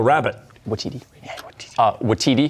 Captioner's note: whispering